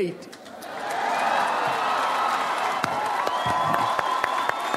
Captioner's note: audience applauds